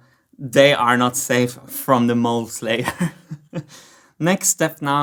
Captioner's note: chuckles